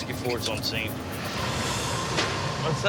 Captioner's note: swish